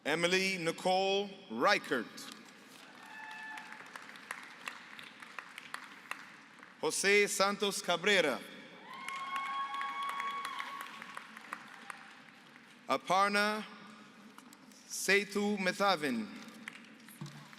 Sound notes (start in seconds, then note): 2.8 applause; 8.8 applause